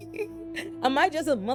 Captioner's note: laughing